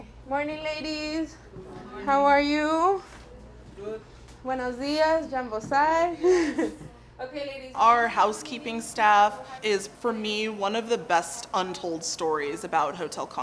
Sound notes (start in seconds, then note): 3.7 laughs; 3.7 speaking Spanish